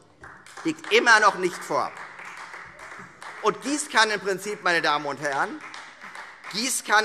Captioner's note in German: Beifall Freie Demokraten